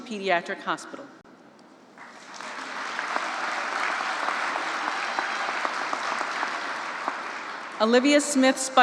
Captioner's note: applause